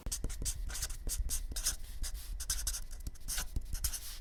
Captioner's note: marker squeaking